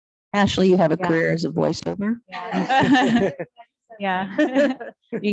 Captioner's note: laughs